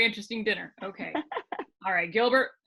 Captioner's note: laughing